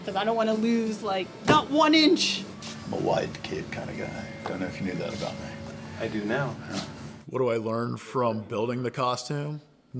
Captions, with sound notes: 'Cause I don't wanna lose, like, not one inch! (soft thudding) -: I'm a wide cape kinda guy. I don't know if you knew that about me. -: I do now. -: Well. What do I learn from building the costume?